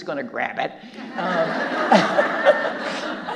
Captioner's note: audience laughing